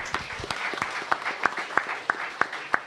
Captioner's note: applause